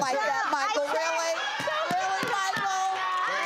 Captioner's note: audience laughing and clapping